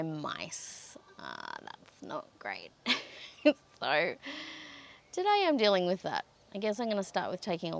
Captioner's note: laughs helplessly